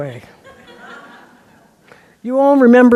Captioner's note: laughter